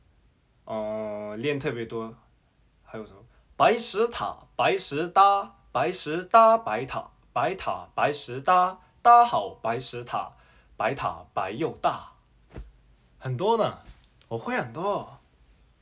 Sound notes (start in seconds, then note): 5.5 jUSt a tOngUE tWisTer about white stones and towers